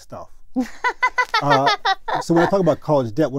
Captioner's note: laugh